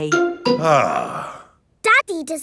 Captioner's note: sighs